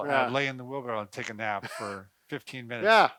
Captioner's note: laughing